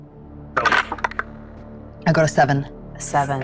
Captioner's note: dice rolling